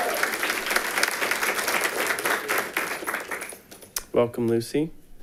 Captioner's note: audience applauding